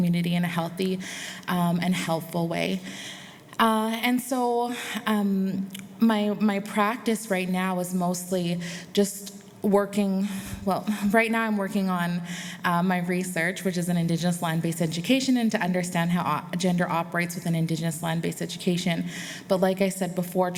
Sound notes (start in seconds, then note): none